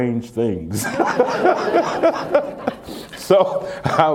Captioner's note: laughter